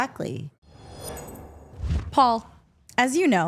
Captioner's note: logo whooshing